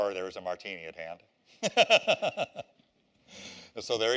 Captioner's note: laughter